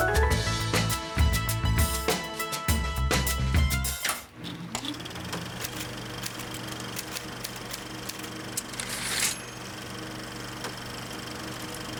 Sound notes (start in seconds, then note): 3.8 projector & typewriter; 9.1 dings